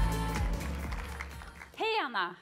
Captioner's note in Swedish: applåder